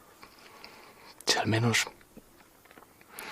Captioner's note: low voice